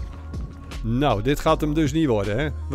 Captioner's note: voiceover